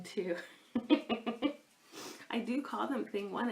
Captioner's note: laughs